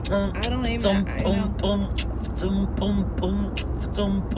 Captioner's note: beat boxing